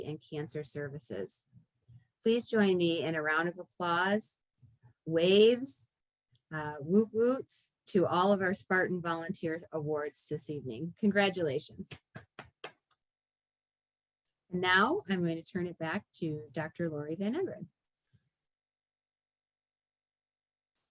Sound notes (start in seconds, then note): 10.0 clapping